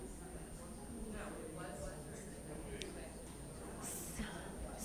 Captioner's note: audience murmurs